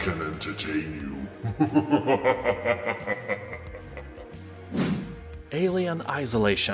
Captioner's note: laughs in demon